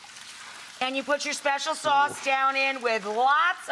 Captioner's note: none